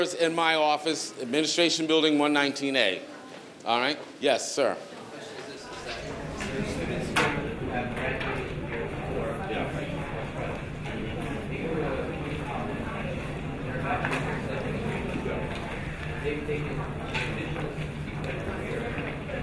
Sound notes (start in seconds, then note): 5.1 students chattering